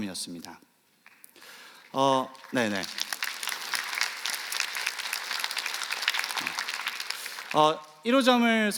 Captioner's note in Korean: 박수